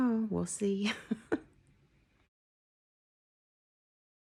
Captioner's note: chuckling